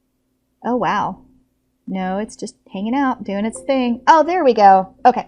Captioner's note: computer error sound